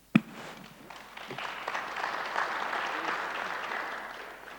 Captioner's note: audience applauds